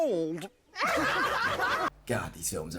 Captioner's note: all laugh